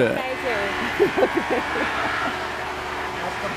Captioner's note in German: Maschinensurren, Stimmen